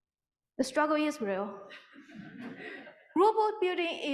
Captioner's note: audience laughing